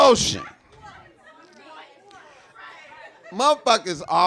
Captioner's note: audience gibing